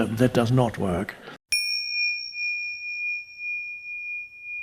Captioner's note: logo dings